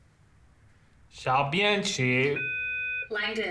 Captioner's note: computer voice speaks in Mandarin; Langdon tries to repeat in Mandarin